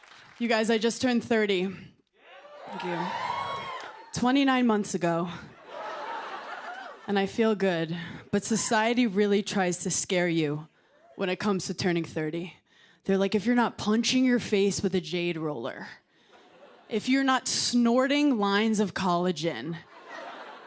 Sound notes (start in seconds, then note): 2.2 cheering; 5.6 laughter